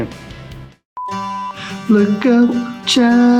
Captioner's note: beep